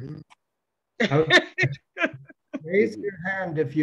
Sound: woman laughs

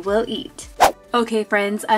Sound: whooshing

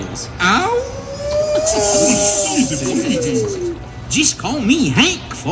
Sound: howling and laughter

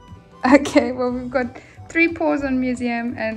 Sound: laughing

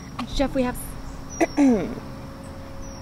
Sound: clears throat

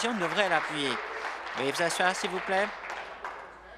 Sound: applause

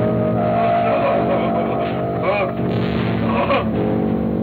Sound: fearful whimpers

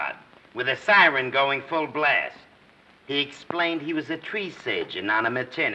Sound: none

